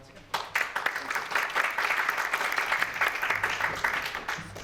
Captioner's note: applause